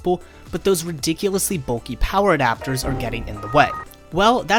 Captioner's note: windows XP freak-out